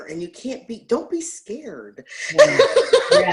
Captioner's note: laughs